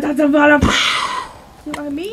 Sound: explosion

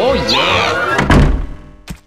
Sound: door close

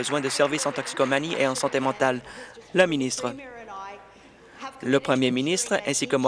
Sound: applause

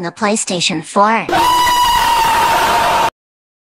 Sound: screaming loudly

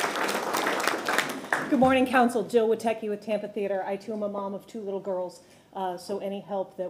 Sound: applause

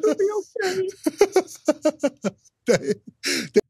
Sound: laughs

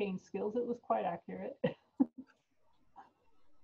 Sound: laughs

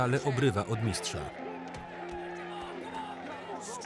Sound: audience cheering

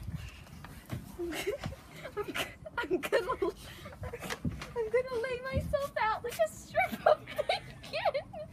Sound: laughs

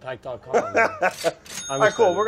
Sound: laughs

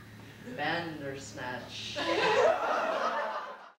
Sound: laughter

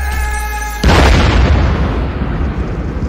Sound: boom

